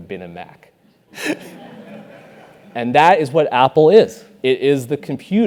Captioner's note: laugh